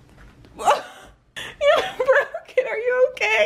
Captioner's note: laughs